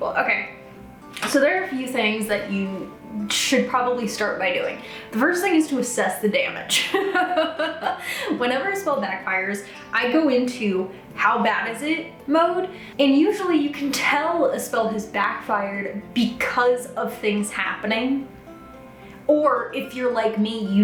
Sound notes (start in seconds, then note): 6.8 chuckles